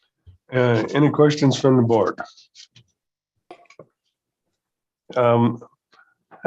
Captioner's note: silence